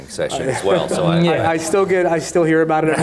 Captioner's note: audience laughing